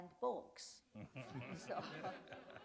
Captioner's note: laughter